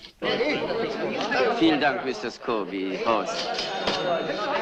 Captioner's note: chattering